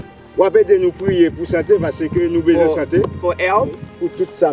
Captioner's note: speaking in foreign language; speaking in foreign language